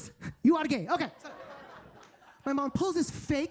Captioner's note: audience laughing